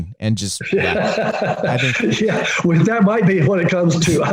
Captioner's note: laughing